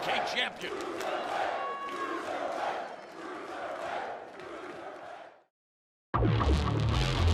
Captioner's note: crowd cheering